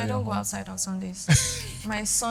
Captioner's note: laughs